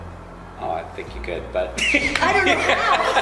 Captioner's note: laughs